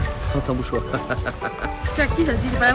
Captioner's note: laughs